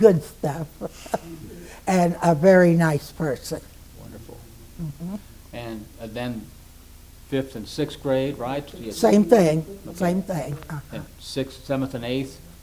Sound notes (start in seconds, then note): 0.4 laughs; 4.8 affirms